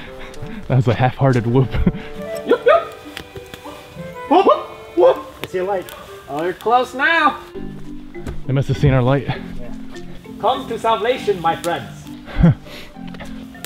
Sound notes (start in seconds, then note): 2.2 whooping back and forth